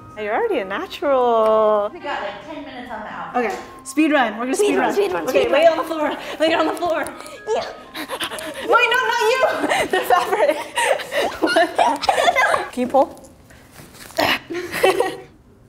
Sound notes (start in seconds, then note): 7.6 child gasping; 11.2 both laughing; 14.1 both straining